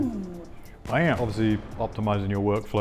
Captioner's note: bomb explodes